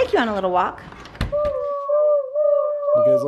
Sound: doorknob creaks

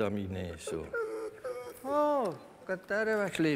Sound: dog whimpers

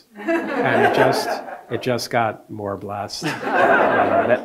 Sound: audience laughing

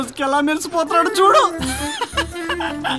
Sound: laughs

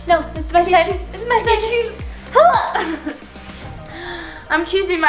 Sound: yells

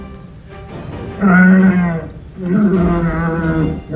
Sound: Allosaurus growls

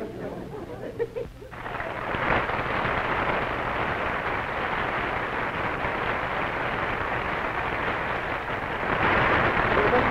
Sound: applause

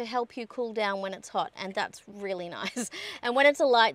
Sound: chuckles

